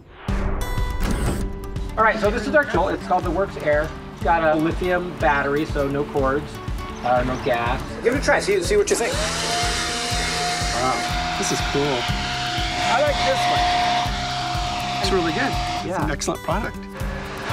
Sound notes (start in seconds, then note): 10.7 voiceover